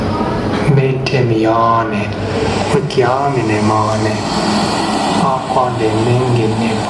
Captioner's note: male voice speaking in Indigenous Myaamia language